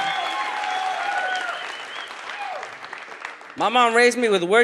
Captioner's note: audience cheers